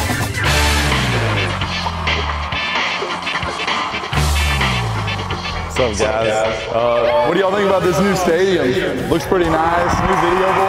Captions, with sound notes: (crowd cheering) - I'm so jazzed. What do y'all think about this new stadium? Looks pretty nice. (crowd cheering)